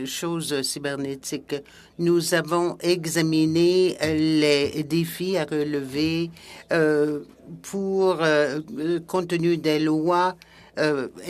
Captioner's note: speaking French